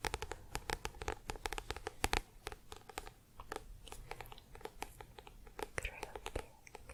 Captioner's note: tapping on book